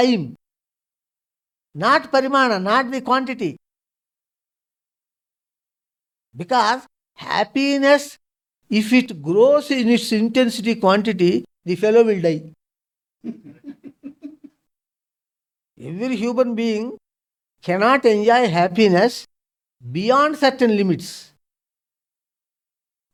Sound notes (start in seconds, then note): 13.2 laughs